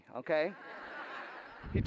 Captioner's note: laughter